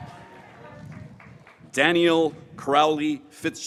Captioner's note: graduates cheering